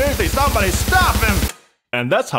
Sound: click

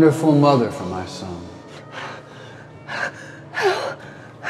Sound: breathing heavily

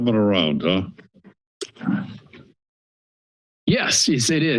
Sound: silence

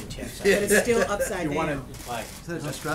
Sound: laughter

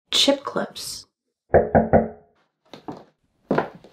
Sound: knock-knock-knock

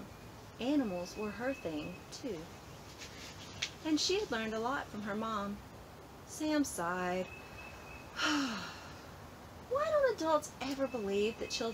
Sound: sigh

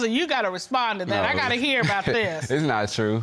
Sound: laughs

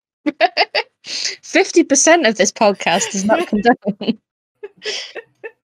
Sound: laughs

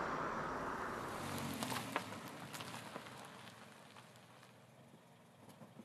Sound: engine rumbles to a stop

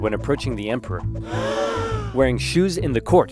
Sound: gasp sounds

